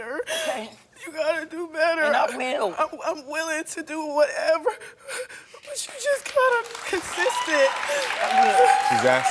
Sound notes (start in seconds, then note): 6.2 audience applauding; 6.7 audience cheering